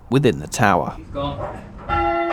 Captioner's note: cheers